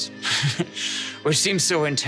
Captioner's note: chuckling